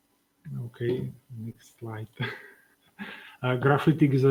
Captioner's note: laughs